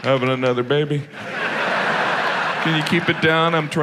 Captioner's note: audience laughs